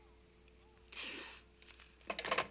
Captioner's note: hisses in frustration